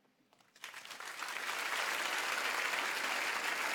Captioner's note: applauds